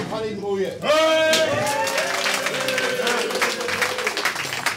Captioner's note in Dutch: Applaus